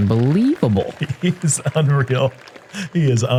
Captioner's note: chuckle